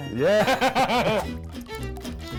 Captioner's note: laughs; warm festive music